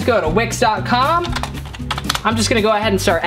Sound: typing

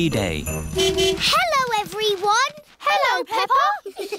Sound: horn honking; giggling

